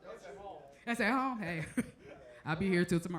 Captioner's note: chuckles